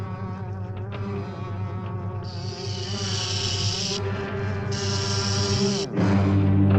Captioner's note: tense music continues; snake rattles; dramatic music